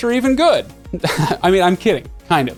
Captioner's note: chuckles